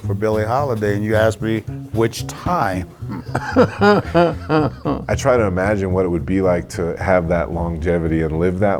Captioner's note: laughs